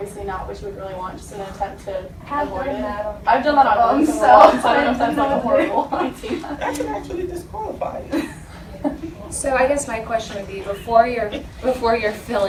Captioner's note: indistinct chatter